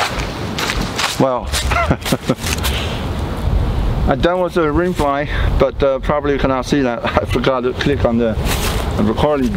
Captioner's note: laughing